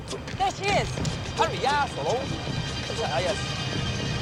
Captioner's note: speaking chinese